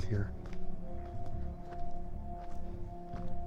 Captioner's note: footsteps